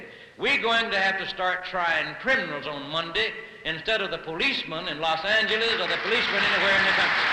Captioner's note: applause